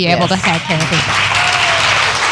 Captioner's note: applause